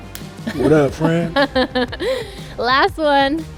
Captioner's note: laughing